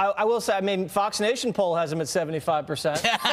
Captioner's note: laughter